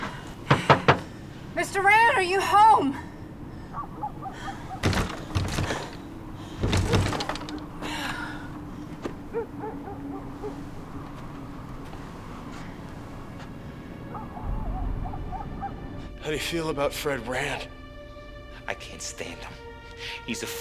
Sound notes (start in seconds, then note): 0.4 knocks; 4.7 door rattling; 8.2 sighs; 13.1 tense music